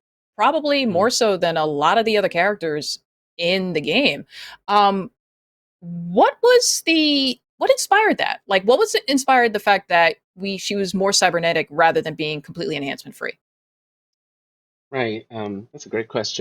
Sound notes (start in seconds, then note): none